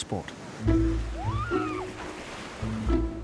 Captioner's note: swimmer cheering; water splashing